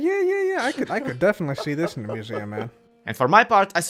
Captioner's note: laughing